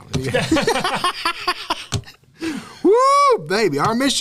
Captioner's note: laughter